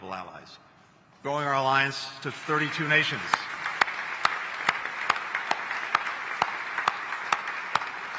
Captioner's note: applause